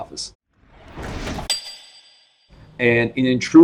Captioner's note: metal chiming